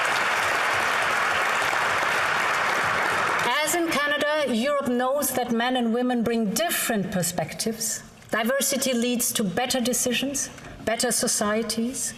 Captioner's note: applause